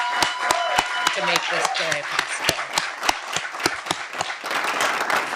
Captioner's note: audience cheering and applauding